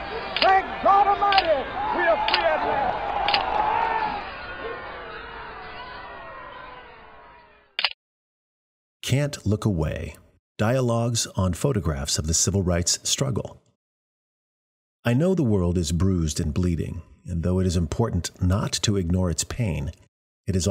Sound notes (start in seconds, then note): 3.3 crowd exclaiming loudly; 7.8 camera clicks